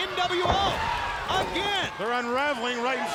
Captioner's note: body thudding